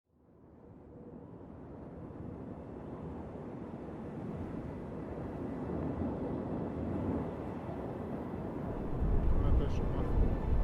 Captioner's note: wind